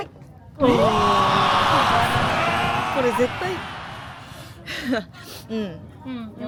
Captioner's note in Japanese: 叫び声